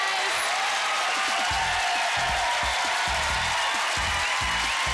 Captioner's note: cheering